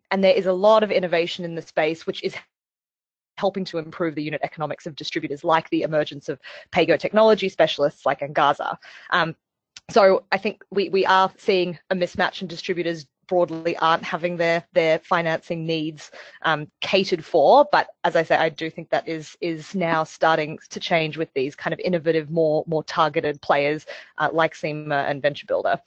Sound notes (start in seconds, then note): 13.4 audio static